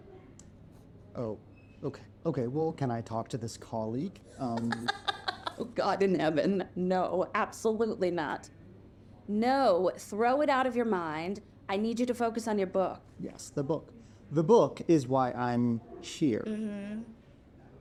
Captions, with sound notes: - Oh, okay, okay, well, can I talk to this colleague? Um. (Rey laughs) - Oh God in heaven. No, absolutely not. No, throw it out of your mind. I need you to focus on your book. - Yes, the book. The book is why I am here. - Mm-hmm.